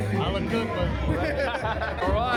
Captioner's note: laughs